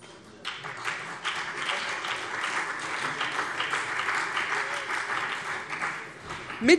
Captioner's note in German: Beifall CDU und BÜNDNIS 90/DIE GRÜNEN